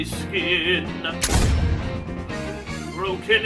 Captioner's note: gun Shot